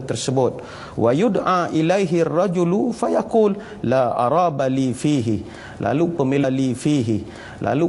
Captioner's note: arabic recitation